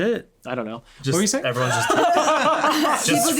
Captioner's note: all laughing